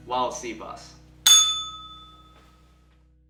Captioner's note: bell rings